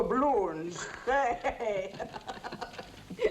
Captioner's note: chortling